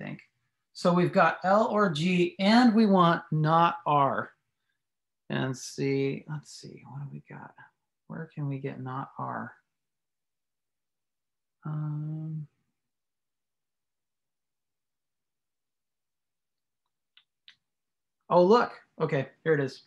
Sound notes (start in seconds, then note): 10.5 silence; 17.1 silence